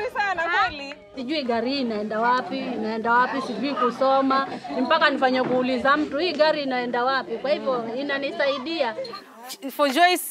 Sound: talks in Giriama

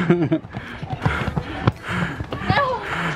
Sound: laughing

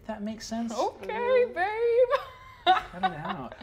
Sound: laughs

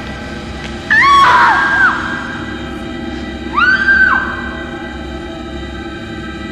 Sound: screaming

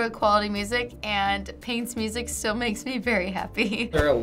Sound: chuckles

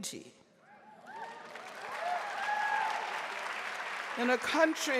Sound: audience cheering and applauding

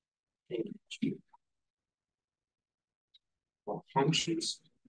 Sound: audio distorting

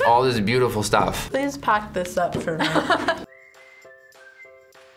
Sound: laughs

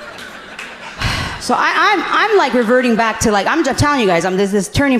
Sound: sighing

